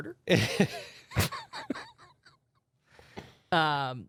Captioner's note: laughs